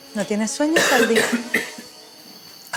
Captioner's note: cough